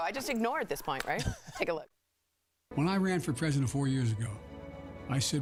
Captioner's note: laughter